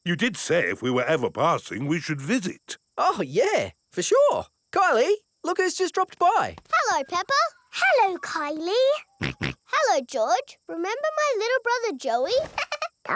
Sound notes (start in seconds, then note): 9.2 snorts